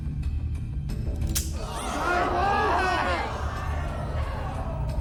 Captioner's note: gun snaps; crowd jeers